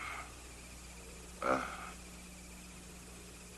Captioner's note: labored breathing